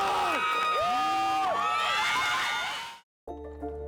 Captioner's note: students cheering